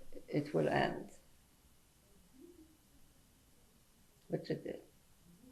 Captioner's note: pauses for 3 seconds